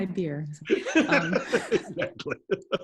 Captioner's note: laughs